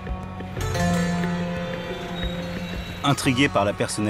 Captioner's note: traffic noises